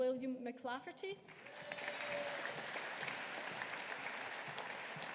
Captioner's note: audience applauding